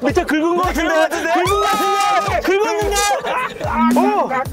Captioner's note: screaming and shouting fills the air